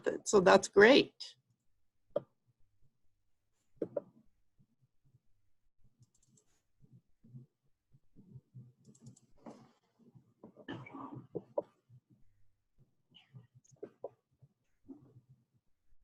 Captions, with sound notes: STRANGER METHOD. SO THAT'S GREAT. [SILENCE]